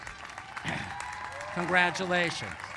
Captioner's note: cheers and applause